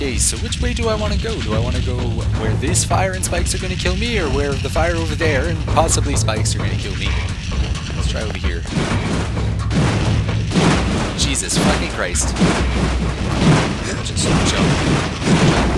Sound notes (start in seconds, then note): 8.7 fire shooting; 12.3 metal sounds